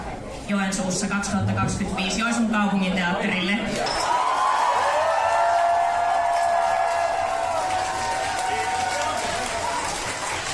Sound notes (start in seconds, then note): 4.3 applause